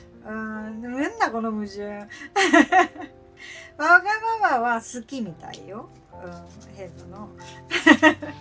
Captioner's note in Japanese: 笑い